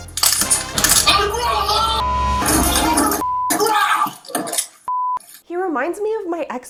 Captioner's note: loud crashing